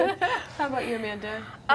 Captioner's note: laughing